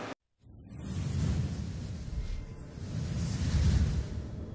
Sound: digital whooshing sounds

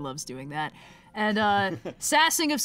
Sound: laughs

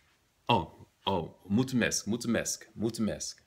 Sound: romanian

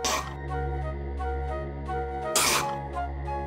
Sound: spitting

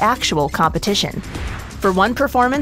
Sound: air whooshing

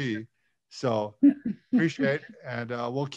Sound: laughs

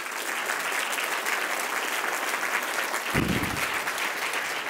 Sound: audience applauding

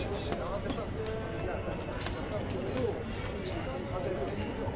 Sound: people chattering

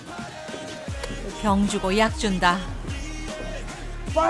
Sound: kiss

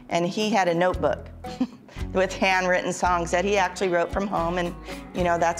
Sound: chuckles

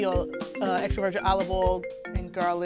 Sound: cellphone ringing

